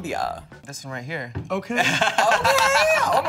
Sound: laughs

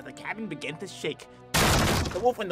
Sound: explosion

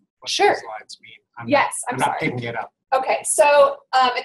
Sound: voiceover

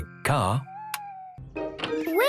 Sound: car lights click off

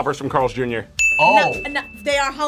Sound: bell rings; buzzer rings

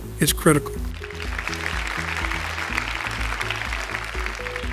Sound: applause

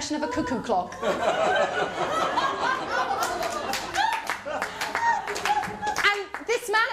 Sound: laughter & applause

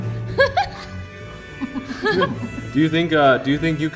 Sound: laughs

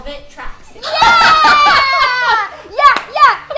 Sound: laughter

